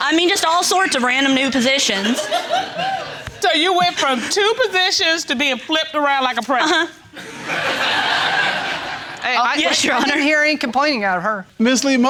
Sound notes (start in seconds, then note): 1.9 audience laughs; 7.1 laughter